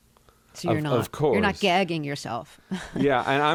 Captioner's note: laughter